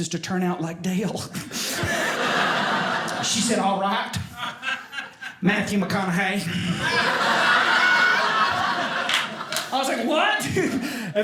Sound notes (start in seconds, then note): 1.4 audience laughing